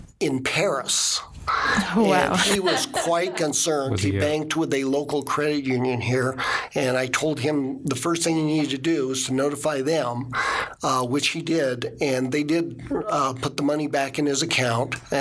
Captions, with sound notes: - Wow (laughing) (laughing) - And he was quite concerned. He banked with a local Credit Union here and I told him the first thing he needed to do was to notify them which he did. And they did put the money back in his account